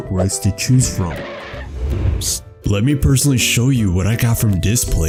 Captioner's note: car brakes